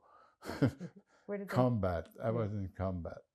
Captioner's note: laughing